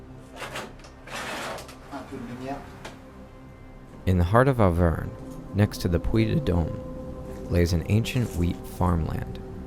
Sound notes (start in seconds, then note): 2.0 speaks French